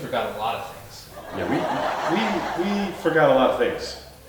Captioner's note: audience laughing